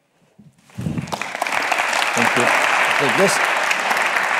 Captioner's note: audience claps